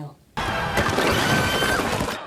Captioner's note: screams